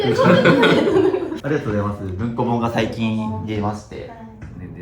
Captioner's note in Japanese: 笑い